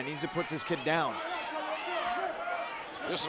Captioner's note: crowd chatter